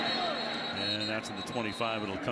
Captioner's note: whistle